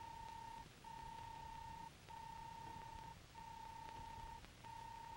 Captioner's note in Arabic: صوت الروبوت